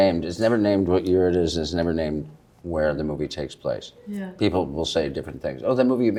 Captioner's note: none